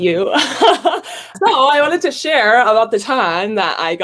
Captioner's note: laughs